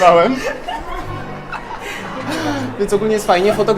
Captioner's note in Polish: śmiech